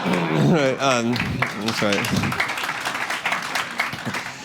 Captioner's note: laughter; applause